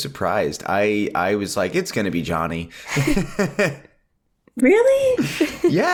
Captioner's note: laughs